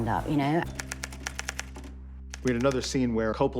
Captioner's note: typewriter clacking